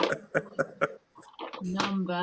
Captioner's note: laughs